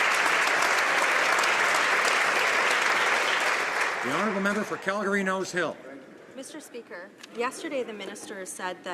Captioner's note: some Applause